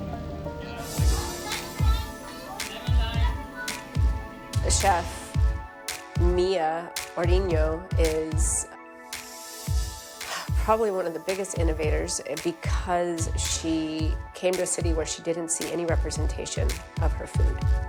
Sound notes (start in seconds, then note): 0.6 chefs chatter; 9.0 huffs